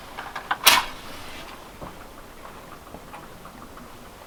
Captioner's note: match snapping